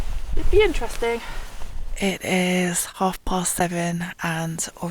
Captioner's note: none